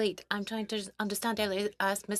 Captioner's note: speaking French